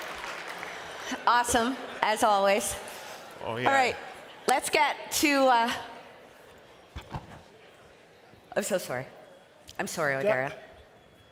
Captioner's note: cheering and applause